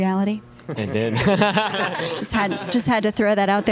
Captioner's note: laughs